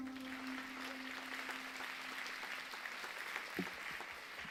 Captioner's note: audience applauding